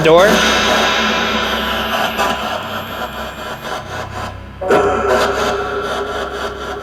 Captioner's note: discordant radio sounds blaring